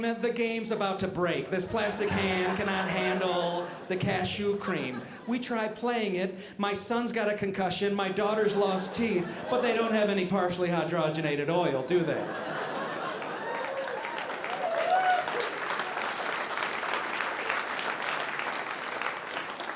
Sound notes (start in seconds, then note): 12.2 audience laughing; 14.5 audience applauding